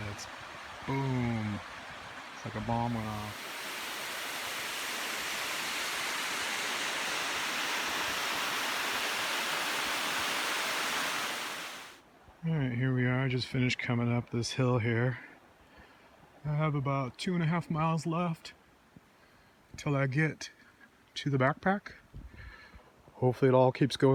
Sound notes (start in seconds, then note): 3.2 sound of waterfall